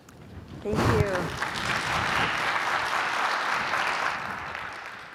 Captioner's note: applause